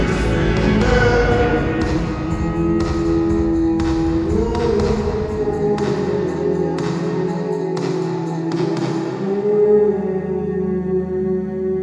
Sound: "Oooh" 's fade into darkness

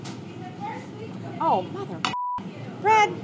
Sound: beeping

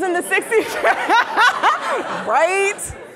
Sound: laughing

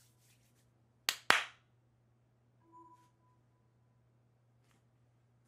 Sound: clap clap

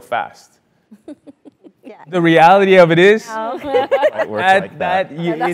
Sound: laugh

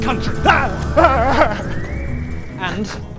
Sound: whimpers bravely

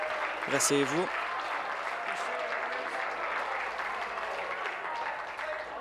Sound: applause

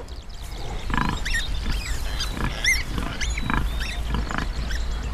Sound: pigs snorting

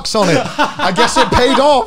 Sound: laughs

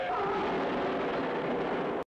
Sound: crash

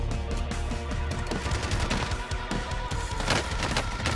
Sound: gunshots

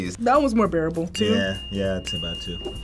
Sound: bell dinging

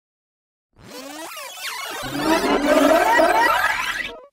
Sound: cassette Rewind Sound Effect

